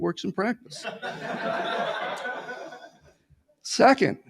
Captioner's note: laughter